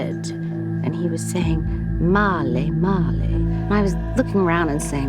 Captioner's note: non-english